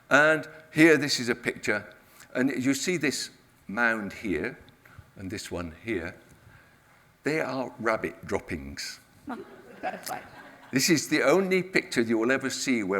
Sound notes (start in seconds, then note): 9.3 audience laughs